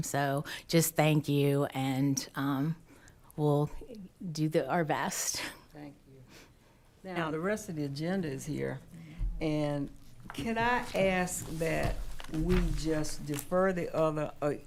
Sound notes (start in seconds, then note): 8.6 quietly